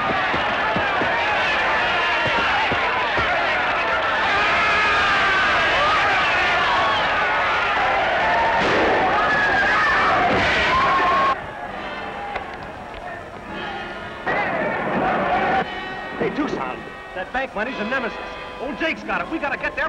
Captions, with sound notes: [gunshot] [screaming] Hey, Tuscon, that ban money is in Nemesis. Old Jake's got it. We got to get there P